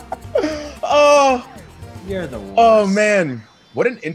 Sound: laugh

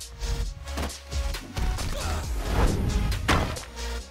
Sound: groaning

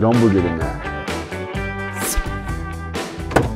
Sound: car Scratch

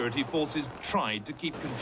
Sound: gun shots firing

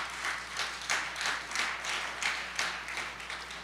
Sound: applause

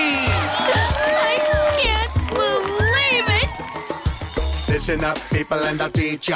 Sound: gasps

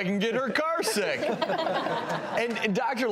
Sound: all laugh

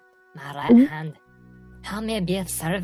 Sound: swallows nervously

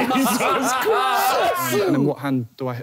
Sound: yelling

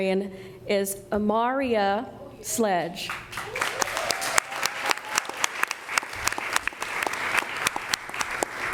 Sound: applause

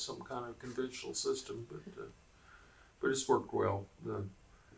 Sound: laughs

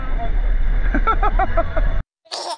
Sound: laughing

